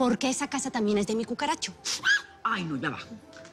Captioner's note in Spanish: Grito